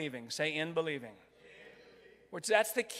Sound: crowd

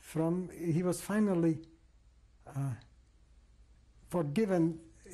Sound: pauses for 3 seconds

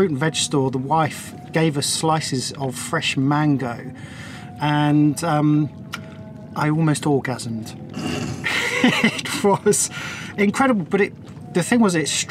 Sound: muffled laugh

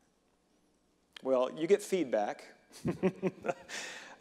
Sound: reverend laughing

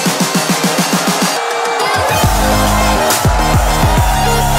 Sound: crowd cheering

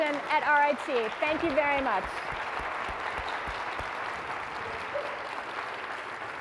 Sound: applause

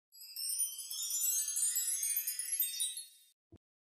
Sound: chimes rings

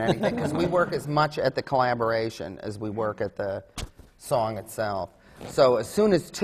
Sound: laughter

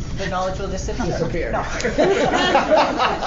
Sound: laughter

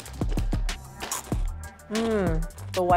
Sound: chip crunches

